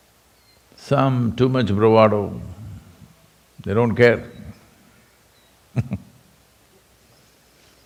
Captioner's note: laughs